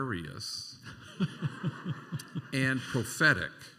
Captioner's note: laughter